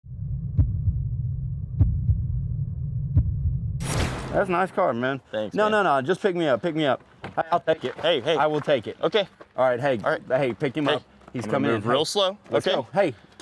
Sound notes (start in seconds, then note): 0.2 heart beating